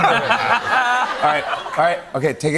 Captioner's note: laughter